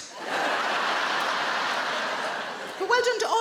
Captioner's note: crowd laughs